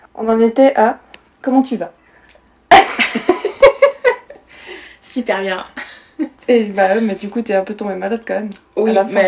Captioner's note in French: rires